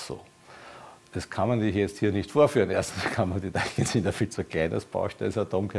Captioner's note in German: lacht